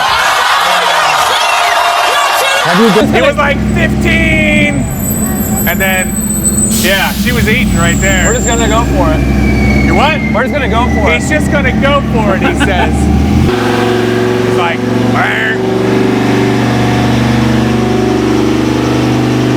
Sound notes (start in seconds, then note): 0.0 crowd exclaims loudly; 13.4 engine revving loudly; 15.1 mimic car revving; 16.1 engine revving loudly